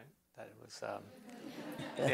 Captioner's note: laughter